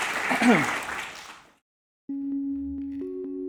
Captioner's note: clears throat